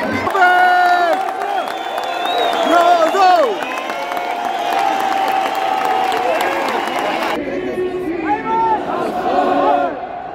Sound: clap

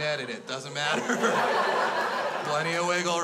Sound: crowd laughs

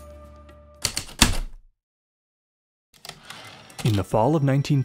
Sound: heavy typewriter keystrokes and slide return

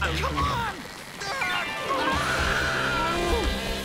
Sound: screaming

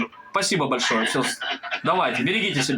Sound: laughter of the director

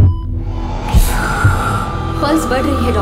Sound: breathing heavily

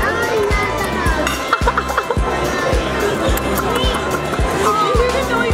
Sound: laughing

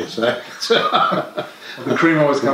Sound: laughter

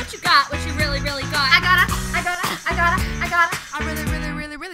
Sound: cough

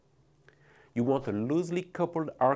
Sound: text whooshing

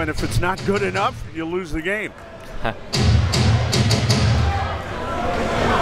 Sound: laughs

